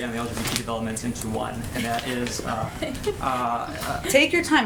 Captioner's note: laughter